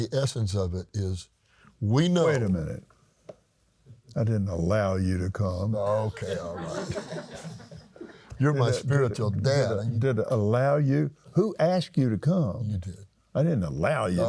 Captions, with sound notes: in the essence of it, is we know- - Wait a minute. I didn't allow you to come. - Okay, all right. (laughs) You're my spiritual dad. - Did allow you? Who asked you to come?